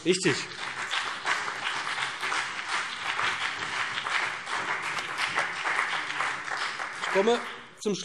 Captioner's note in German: Beifall BÜNDNIS 90/DIE GRÜNEN und CDU